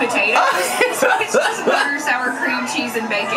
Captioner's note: laughs